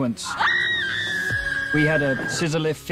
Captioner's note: screaming